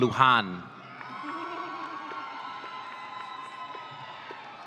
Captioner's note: audience cheering